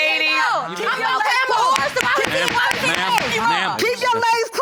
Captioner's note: judge lake banging the gavel